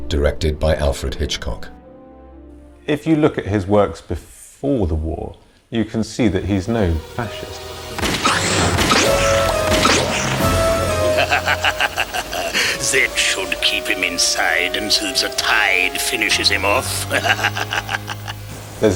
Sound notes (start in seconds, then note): 7.9 guns firing; 8.0 dramatic music; 10.8 laughing; 16.9 laughs